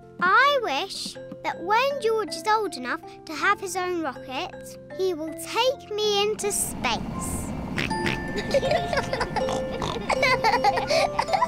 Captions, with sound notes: I wish that when George is old enough to have his own rocket, -he will take me into space. -(OINKS) (BOTH GIGGLE)